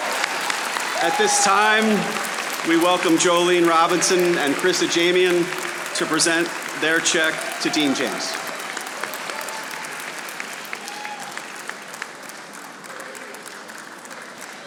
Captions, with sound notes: At this time, we welcome Jolene Robinson and Chris Ajemian to present their check to Dean James. (audience applauding)